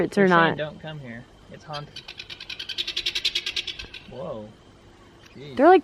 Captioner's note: birds chirping